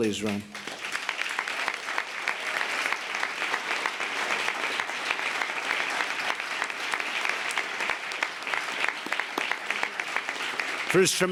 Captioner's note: applause